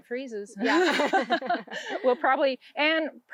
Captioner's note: both laughing